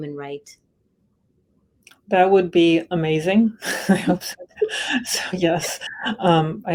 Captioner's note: laughter